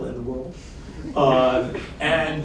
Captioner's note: laughter